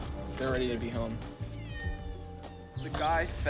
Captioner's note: cat meows